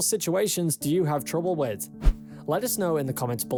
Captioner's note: screen swishes